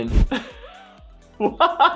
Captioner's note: laughs